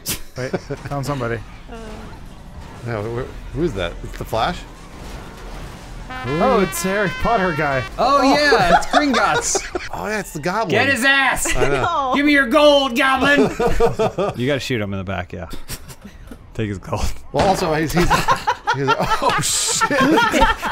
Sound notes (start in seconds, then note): 18.0 laughing